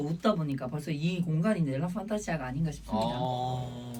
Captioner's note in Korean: 감탄